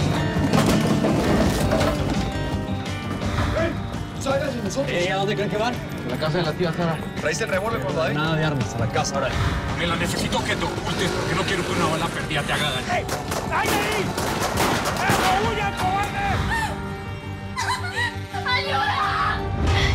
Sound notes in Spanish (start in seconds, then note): 8.6 Ruido de las motos; 13.1 Disparos